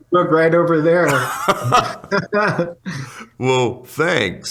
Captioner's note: laughter